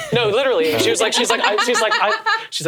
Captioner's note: laughing